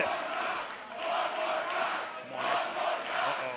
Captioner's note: fans chanting